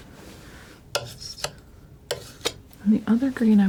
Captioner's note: scratching